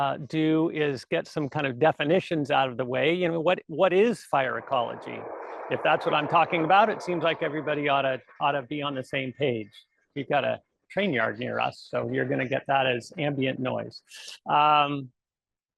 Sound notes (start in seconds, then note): 5.6 rumbling of train on tracks